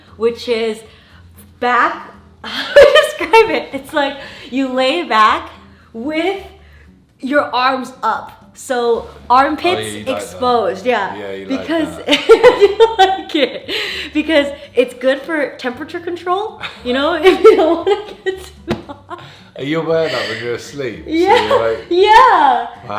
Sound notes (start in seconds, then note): 2.8 laughs; 13.2 laughs; 17.2 laughs